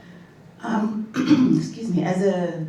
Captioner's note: clears throat